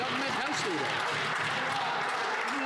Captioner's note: some Applause